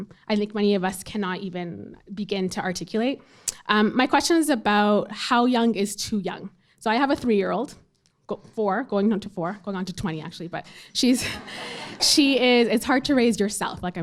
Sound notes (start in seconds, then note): 11.2 audience chuckling